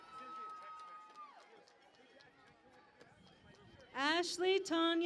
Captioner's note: cheering and Applause